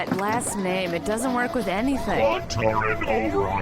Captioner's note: C-53 begins to whir, powering up